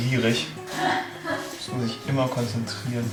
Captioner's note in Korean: 하하